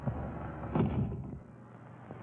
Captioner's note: door shuts